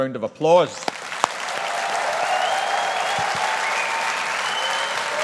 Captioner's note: audience applauding